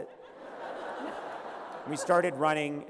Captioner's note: laughter